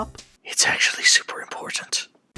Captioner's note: seductive Whisper